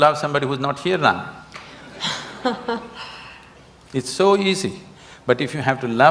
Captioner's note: Juhi Laughs